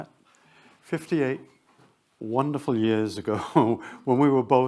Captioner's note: chuckles